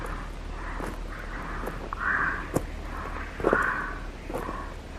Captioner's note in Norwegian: tung pustelyd og skritt høres